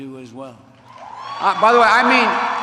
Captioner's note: applause